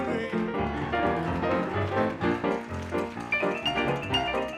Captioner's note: audience applauding